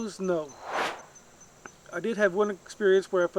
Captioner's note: air swooshes